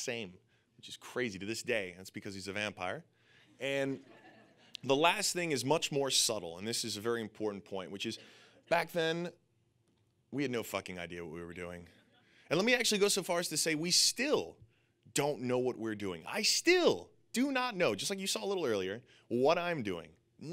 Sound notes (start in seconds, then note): 3.8 audience laughing